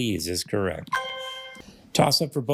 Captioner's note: triumphant chime